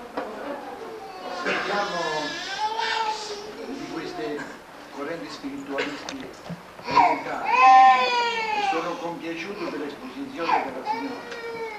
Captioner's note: italian